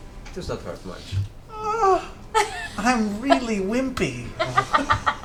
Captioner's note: whimpers